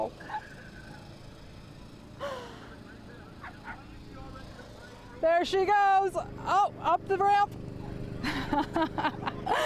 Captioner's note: laughter